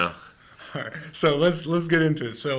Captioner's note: laughing